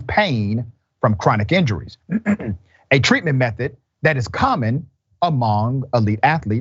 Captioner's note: cough